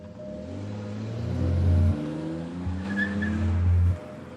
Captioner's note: car engine revving